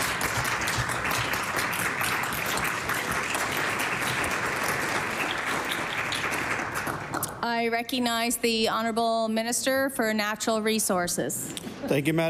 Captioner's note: applause